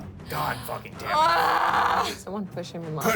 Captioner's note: woman gasps; woman yells frustratedly